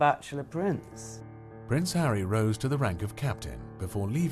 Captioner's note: voiceover